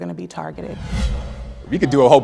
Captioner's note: air whooshing